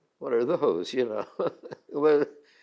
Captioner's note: laughs